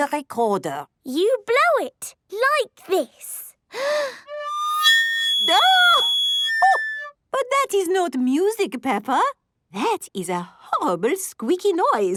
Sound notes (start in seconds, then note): 3.2 off-key; 3.7 inhaling deeply